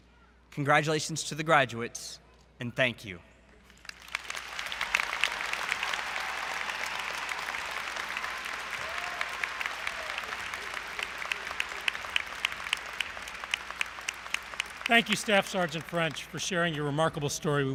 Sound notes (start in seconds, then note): 3.7 applause & Cheering